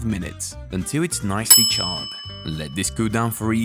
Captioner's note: timer dings